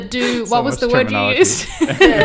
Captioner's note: laughs